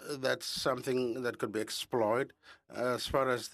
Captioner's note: speaking French